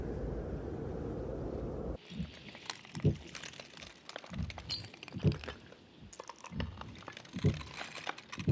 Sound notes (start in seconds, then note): 3.7 frost crackling